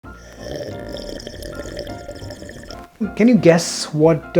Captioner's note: slurping